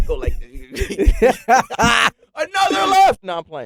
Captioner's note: laughing